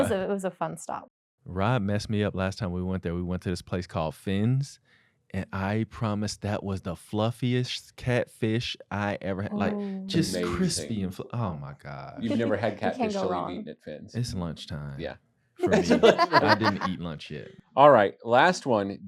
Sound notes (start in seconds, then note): 15.6 laughter